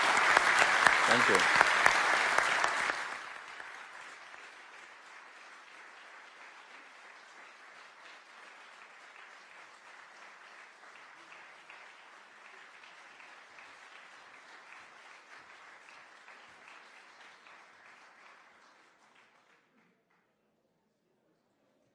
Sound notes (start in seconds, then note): 8.7 applause